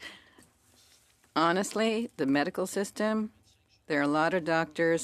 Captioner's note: speaking French